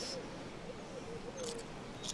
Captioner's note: biting